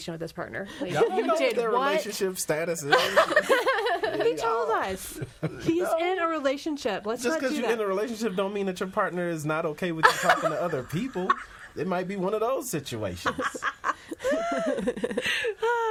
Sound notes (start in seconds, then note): 2.8 all laughing; 10.0 laughs; 13.1 all laughing